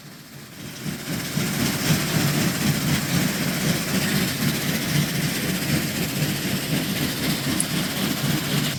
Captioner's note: engine rumbling